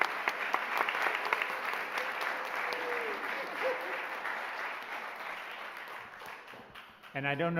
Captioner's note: cheering and applauding